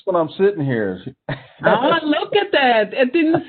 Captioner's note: laughing